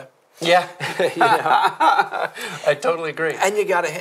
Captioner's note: laughs loudly